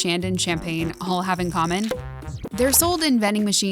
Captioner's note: cork popping